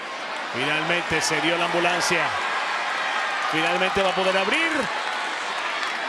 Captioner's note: crowd cheering; commentator speaking Spanish